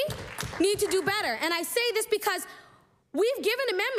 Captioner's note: applause